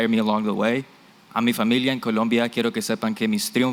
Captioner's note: non-english